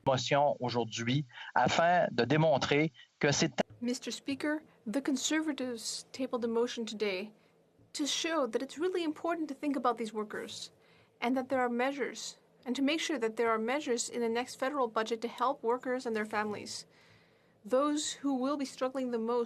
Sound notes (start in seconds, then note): 5.2 speaking French